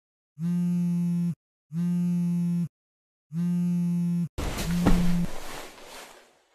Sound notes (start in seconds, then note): 0.4 phone buzzing